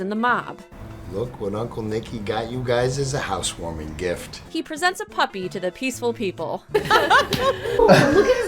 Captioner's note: laughs